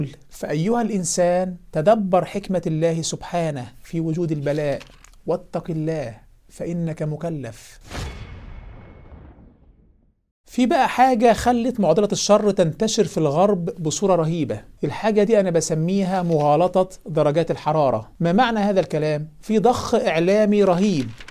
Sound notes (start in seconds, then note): 7.8 sound effects